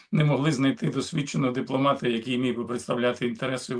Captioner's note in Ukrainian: прочищення горла